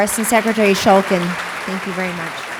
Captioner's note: applause